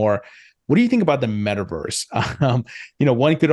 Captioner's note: laughs